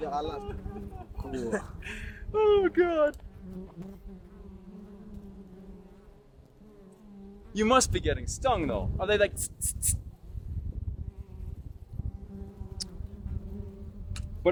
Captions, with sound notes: Oh, God. (bees buzzing) You must be getting stung though. Are they like?